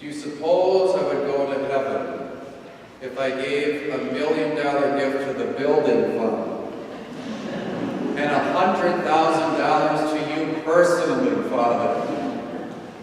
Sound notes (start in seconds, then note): 6.8 audience laughing